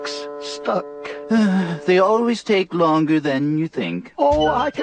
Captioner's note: sighs